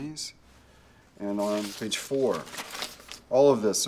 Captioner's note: paper rustling